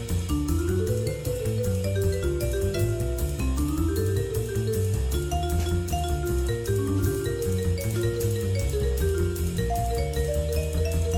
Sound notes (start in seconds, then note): none